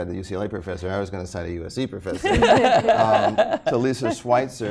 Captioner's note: laughter